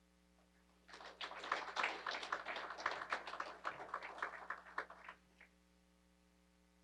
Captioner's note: applause